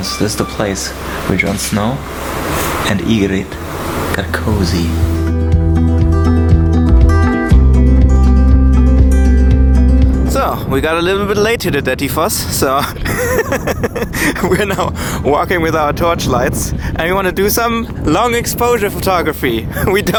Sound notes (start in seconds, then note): 6.0 inspiring music; 12.8 laughs